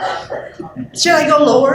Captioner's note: laughter